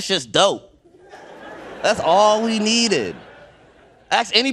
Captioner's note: audience laughing